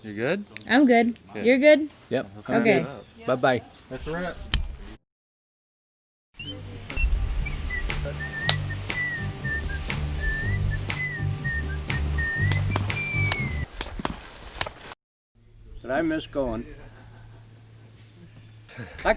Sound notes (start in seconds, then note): 13.6 whistles